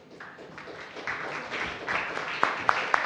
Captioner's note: applause